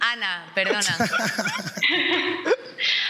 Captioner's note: laughs